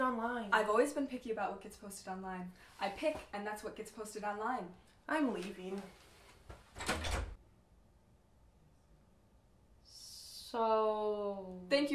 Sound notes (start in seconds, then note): none